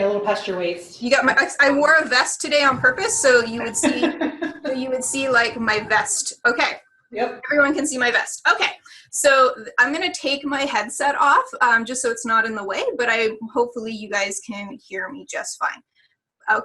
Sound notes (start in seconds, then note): 2.6 laughing